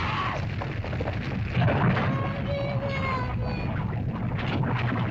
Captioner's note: screams; rumbling sound; cries; lava bubbles & flows